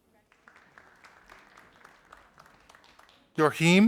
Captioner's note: audience applauding